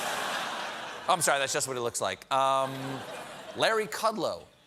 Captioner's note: laughter